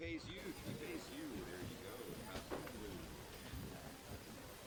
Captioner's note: patrons chattering